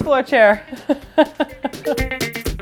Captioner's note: laughing